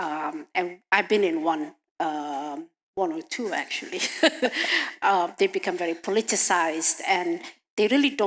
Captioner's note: laughs